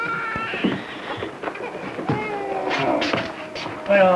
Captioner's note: baby crying